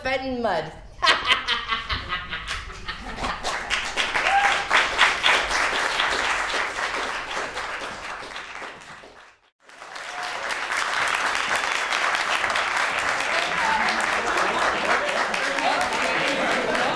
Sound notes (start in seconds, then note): 1.0 evil Laughter; 4.7 applause; 12.7 applause